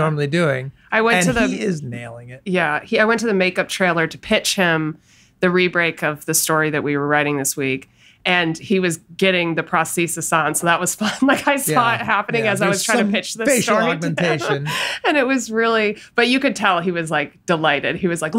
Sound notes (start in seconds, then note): 13.5 laughs